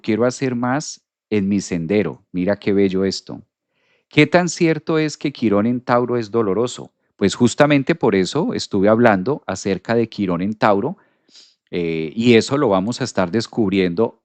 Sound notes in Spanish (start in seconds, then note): 11.2 resoplido